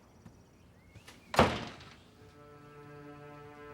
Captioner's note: door closing; dramatic orchestral music